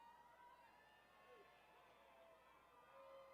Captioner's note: applauding